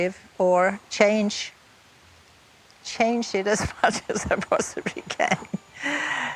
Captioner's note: chuckles